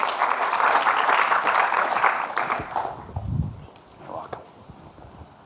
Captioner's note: audience clapping